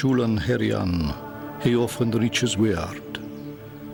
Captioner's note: man speaking Old English